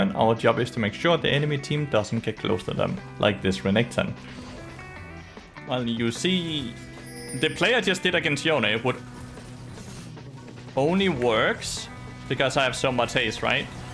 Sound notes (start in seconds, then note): 8.3 crcocodile noises